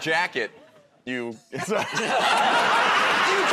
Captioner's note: laughter